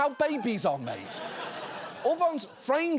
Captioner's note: audience laughing